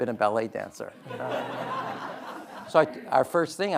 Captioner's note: audience laughing